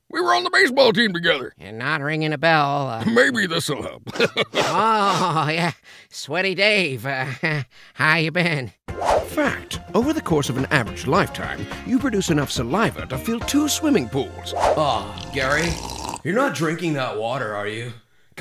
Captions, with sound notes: We were on the baseball team together. - You're not ringing a bell. - Maybe this'll help. - Oh, yeah, sweaty Dave. How you been? - [Voiceover] Fact: Over the course of an average lifetime, you produce enough saliva to fill two swimming pools. - Uh, Gary, you're not drinking that water, are you?